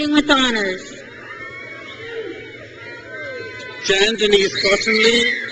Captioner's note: crowd cheers